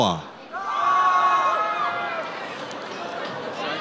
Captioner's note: audience cheers